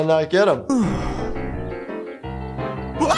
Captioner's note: sigh of relief